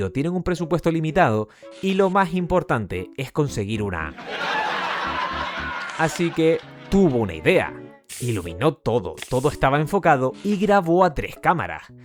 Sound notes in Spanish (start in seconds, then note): 4.2 risas enlatadas